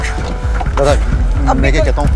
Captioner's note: Car door opens